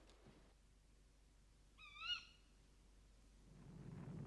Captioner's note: Burung bersuara